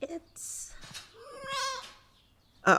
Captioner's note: baby deer mews